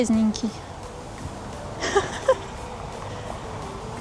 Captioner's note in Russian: смех